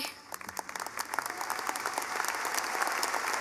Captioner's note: clapping